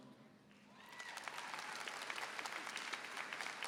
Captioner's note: applause